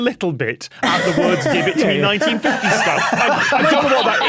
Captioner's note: group laughing